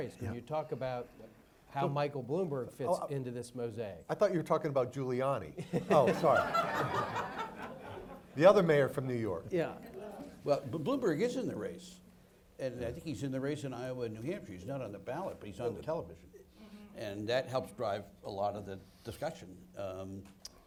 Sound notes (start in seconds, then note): 5.6 audience laughs